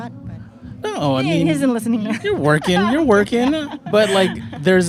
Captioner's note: laughs